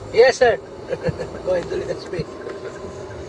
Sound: laughing

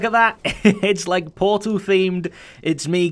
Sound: chuckles

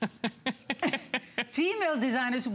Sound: laughter

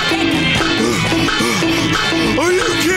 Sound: panting

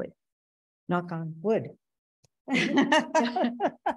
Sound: laughs

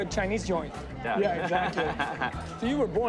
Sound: laughing

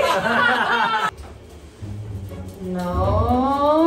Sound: laughs

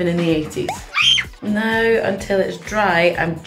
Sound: squealing

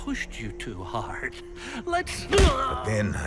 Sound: smack

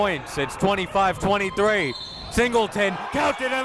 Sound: whistle blows

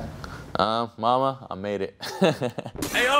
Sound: laughs

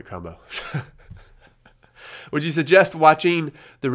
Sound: laughs

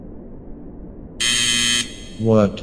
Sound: Loud beep as the whole Chernobyl done eff'd up

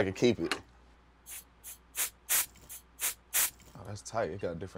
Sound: bottle spraying

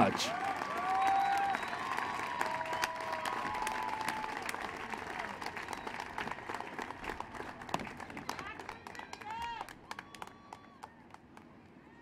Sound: applause

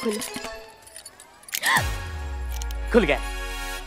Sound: gasps

